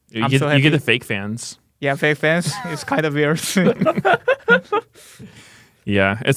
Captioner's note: laughs